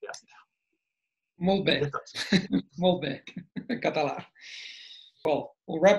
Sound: in Catalan; in English

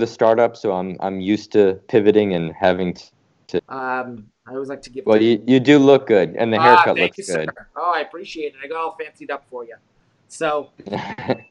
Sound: laughs

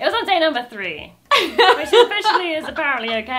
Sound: laughing

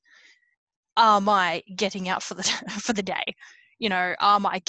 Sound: laughs

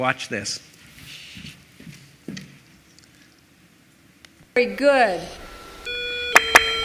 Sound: morse code bleeps

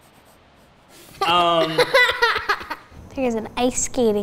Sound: girls laughs

